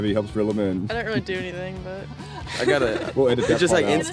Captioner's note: laughing